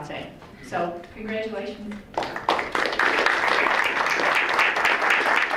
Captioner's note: crowd applauds